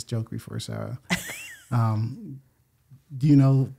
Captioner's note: laughs